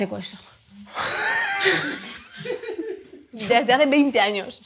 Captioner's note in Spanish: risas